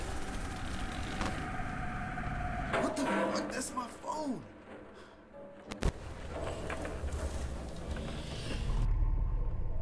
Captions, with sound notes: What the **** that's my phone [Static]